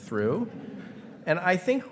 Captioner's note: attendees laughing